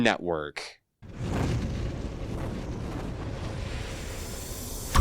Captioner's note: wind rushing